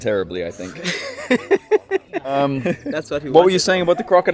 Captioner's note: laughs